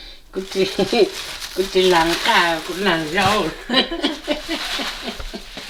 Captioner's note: giggles